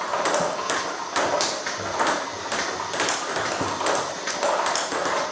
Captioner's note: ball ping pong hitting continues